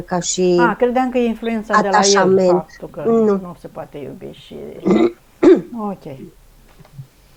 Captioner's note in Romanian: voce dreasă